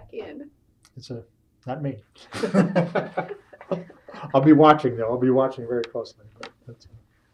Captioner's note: laughs